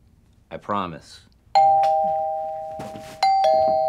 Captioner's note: doorbell ringing